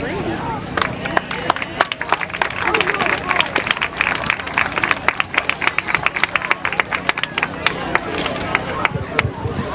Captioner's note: applause